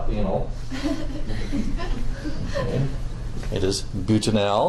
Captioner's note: students laughing